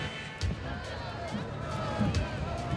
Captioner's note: cheering